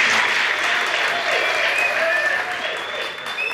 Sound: crowd claps

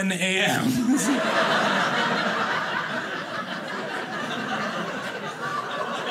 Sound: audience laughing

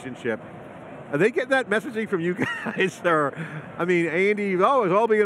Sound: chuckles

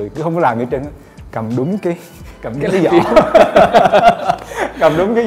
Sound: laugh

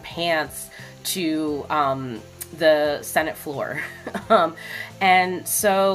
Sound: chuckles

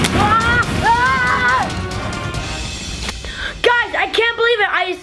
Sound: screaming

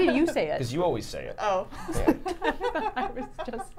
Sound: laughing

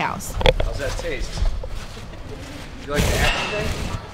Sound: mic rustle

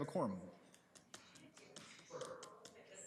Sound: background chatter

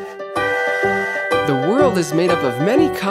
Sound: upbeat music; train toots

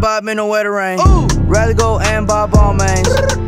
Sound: brr

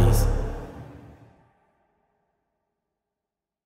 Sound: silence

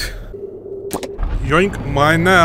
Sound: pop

